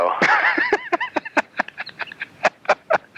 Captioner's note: laughing